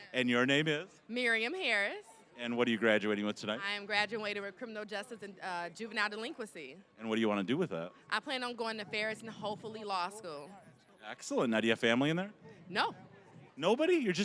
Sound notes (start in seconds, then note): none